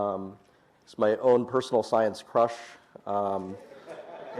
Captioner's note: laughter